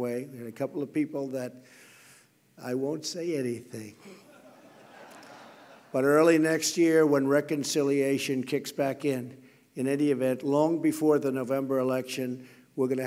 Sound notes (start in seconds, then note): 4.0 laughter